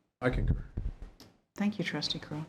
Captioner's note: speaking faintly